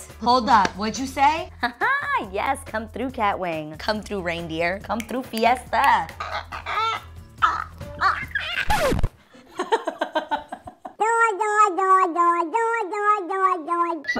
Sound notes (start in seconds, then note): 8.2 record scratches; 9.4 laughing